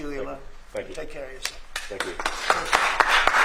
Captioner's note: applause